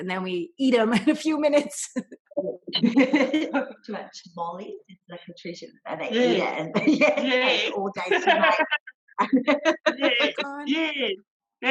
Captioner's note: laughter